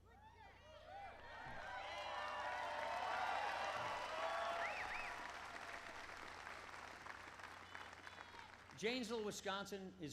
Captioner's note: applause